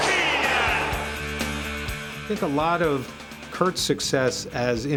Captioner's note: applause